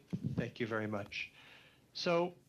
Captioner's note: speaking French